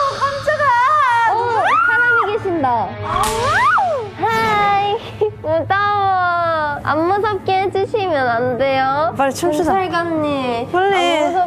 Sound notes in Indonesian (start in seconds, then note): 1.7 High quality screaming